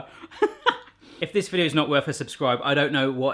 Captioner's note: laughs